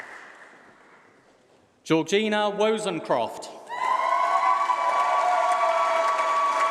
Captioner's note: applause